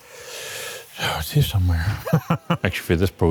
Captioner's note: laughs